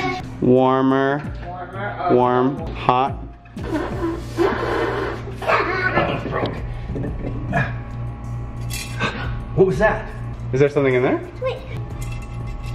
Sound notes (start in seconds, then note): 3.6 blowing sound; 5.4 laughs; 7.9 rattles; 12.5 rattling